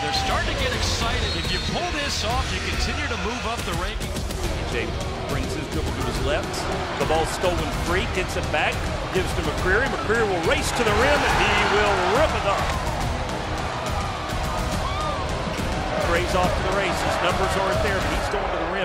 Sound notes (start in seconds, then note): 12.4 crowd cheering; 14.6 upbeat music